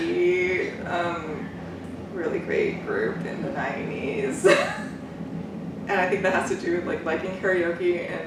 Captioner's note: laughs